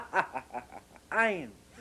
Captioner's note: laughter